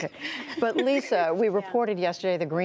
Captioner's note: laughter